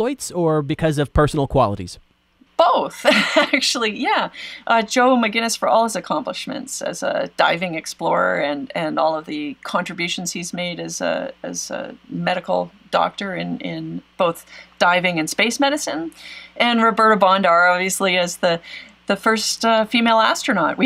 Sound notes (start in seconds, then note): 2.9 laughs